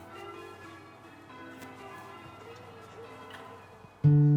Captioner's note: church bells